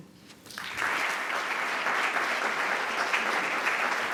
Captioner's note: applause